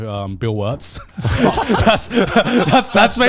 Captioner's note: all laughing